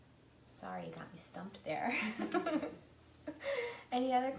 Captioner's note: laughing